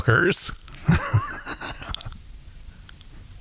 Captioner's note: laughs